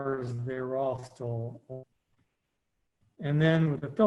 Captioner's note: audio cut out